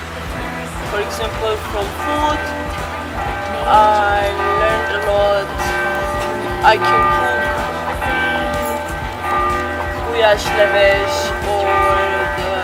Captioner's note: church bells Ding-Donging in the background